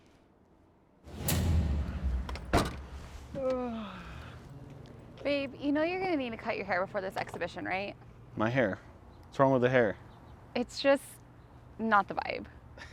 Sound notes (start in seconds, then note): 1.0 dramatic music thumps; 1.1 trunk thuds; 3.4 Harrison yawns